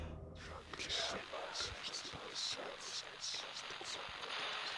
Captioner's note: ghostly voices whispering